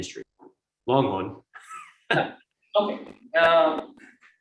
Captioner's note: chuckles